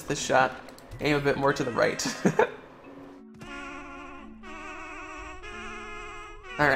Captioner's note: laughter